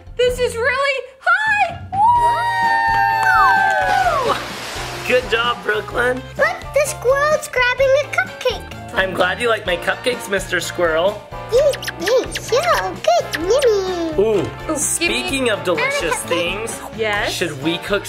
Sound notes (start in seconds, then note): 1.3 adventurous music playing; 12.1 squirrel eating